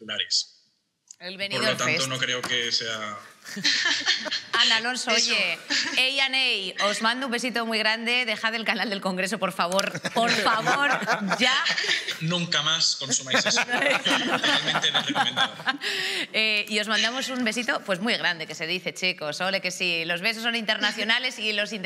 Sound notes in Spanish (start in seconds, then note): 3.5 ríe; 9.7 algunos ríen